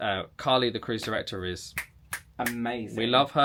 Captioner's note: snaps fingers